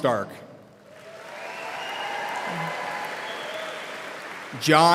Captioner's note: audience applauding